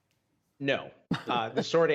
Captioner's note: laughter